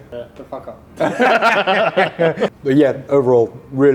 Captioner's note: chuckling